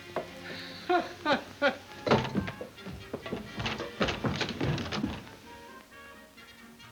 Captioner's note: gentle music; Ollie laughs